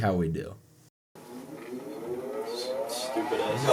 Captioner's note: extraordinarily loud heater starting up